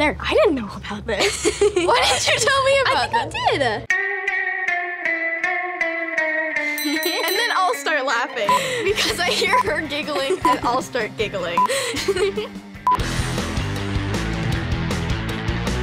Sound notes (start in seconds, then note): 6.7 bell Sounding